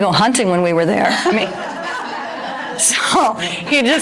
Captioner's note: audience laughter